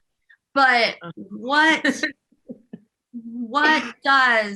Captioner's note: laughter